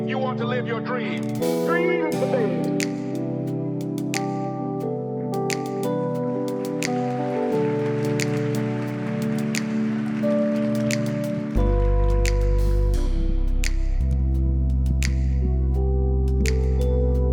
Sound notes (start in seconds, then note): 4.0 upbeat music; 6.3 audience applauding